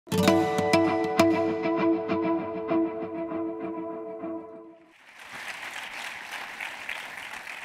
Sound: applause

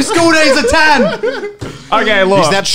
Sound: laughing loudly

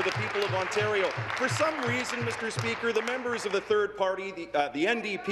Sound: applause

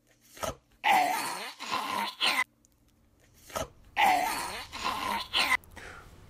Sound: choking noises

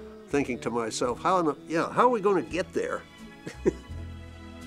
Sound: laughs

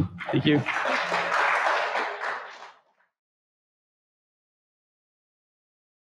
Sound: audience clapping

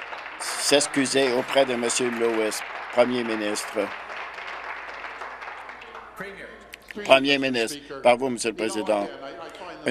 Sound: applause

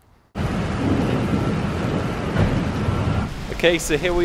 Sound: pouring rain

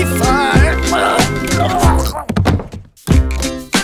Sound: choking

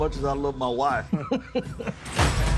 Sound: laughs

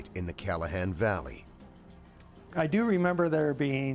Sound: voiceover

